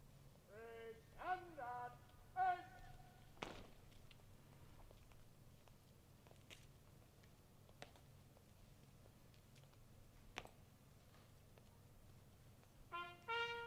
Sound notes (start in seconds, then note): 3.4 boots hit the ground in unison